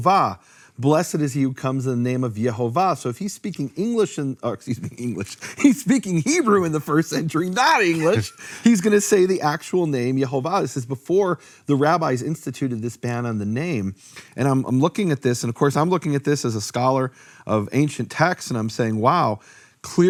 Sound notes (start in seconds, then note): 7.5 laughing